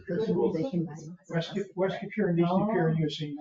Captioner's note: members chattering